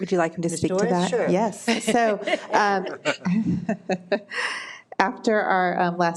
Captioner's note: people laughing